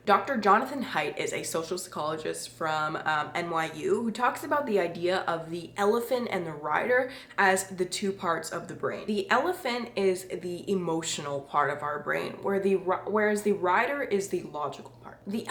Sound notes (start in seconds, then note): none